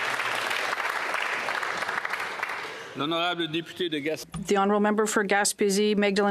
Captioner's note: applause